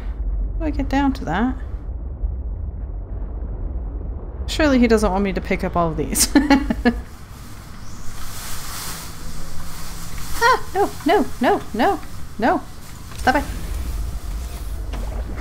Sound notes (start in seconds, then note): 6.2 laughs; 7.0 crazy wind gusts and an 'Aah!'